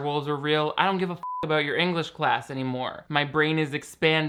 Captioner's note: beep